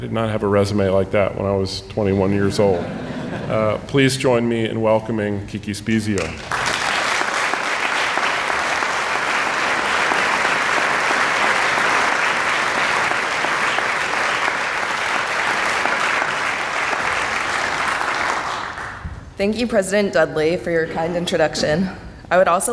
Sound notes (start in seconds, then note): 2.2 audience laughing; 6.6 audience applauding